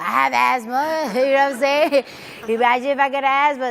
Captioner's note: audience laughs